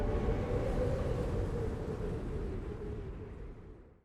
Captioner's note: wind blowing